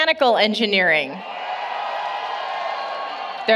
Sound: cheering

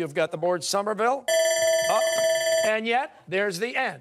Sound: timer

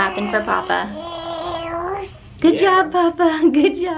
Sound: gurgling

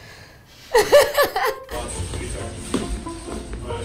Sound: giggling

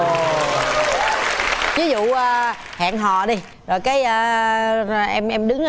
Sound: claps

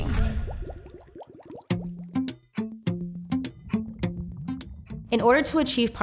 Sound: bubbles bubbling; lively music

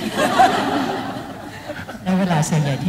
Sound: laughing

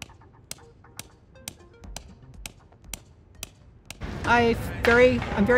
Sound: hammer pounding wooden stake sound

